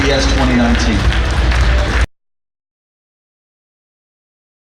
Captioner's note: audience applauding